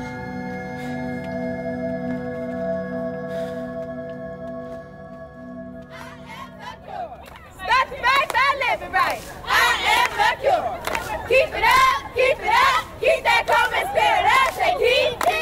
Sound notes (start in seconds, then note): 6.5 chanting